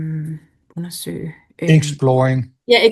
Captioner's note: foreign language